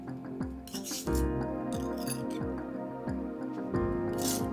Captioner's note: knife scraping